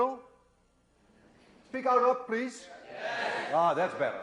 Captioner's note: chorus of agreement